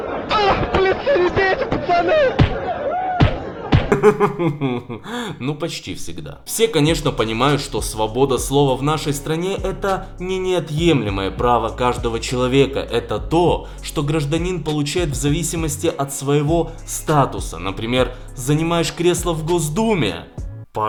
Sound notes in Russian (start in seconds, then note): 3.9 Смеется; 3.9 Звуки ударов